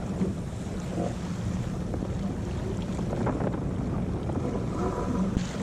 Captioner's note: rigging sounds